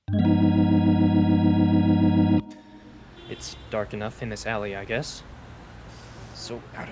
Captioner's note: quietly, to himself